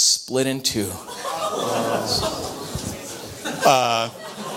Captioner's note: audience laughter